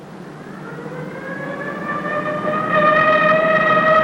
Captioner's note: siren blaring